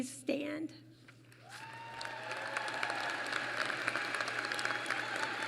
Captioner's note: applause